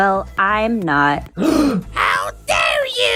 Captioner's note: gasp